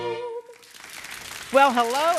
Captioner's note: audience clapping